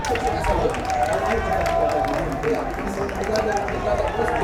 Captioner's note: fans chanting